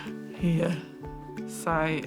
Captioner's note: laughs; laughs, inhales